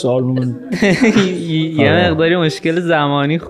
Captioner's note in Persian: خنده